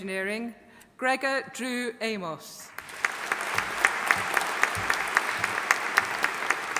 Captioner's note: audience applauding